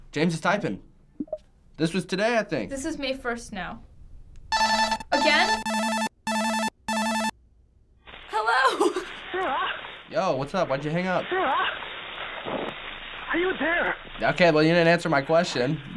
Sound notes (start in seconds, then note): 4.5 distorted ringing